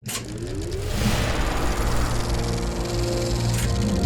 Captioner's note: film reel spooling up